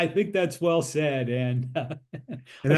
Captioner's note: laugh